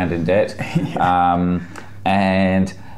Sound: laughs

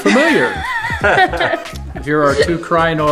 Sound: laughing

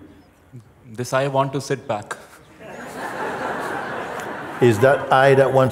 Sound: laughter

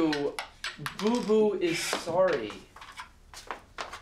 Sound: ring clatters to floor

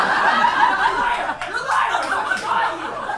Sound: audience laughs

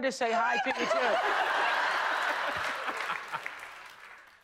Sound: laughter

